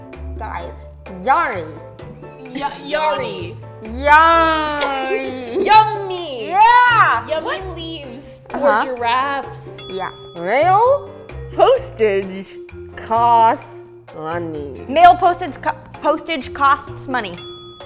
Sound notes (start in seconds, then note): 2.5 chuckles; 4.6 giggles; 9.7 ding; 17.3 ding